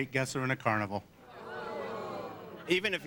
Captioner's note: audience groans